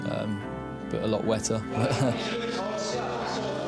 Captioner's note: chuckles